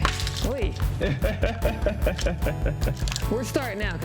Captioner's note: laughs